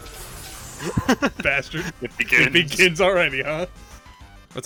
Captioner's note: laughing